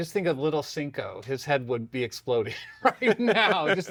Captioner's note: laughs